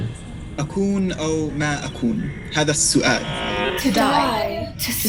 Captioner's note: speaking in foreign language